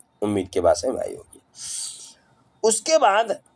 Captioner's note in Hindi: नाक से की जाने वाली आवाज़